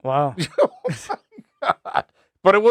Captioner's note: laughing